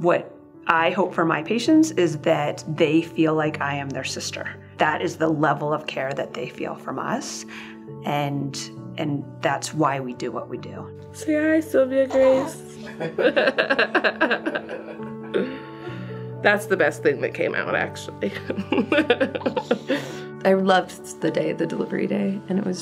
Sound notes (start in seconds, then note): 12.8 laughing